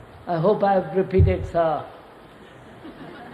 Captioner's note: laughter